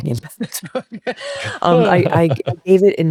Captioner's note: both laughing